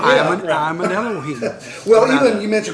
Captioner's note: laughter